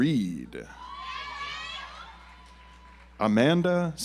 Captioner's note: audience applauds